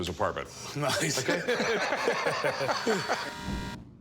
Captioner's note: laughing